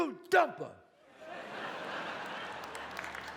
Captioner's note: audience laughs; audience applauds